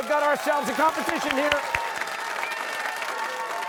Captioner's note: cheering